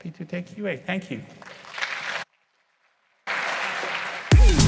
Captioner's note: applause